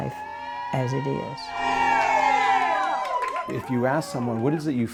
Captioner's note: participants cheering